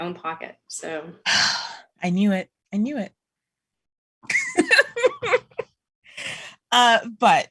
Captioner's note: sighs heavily; laughter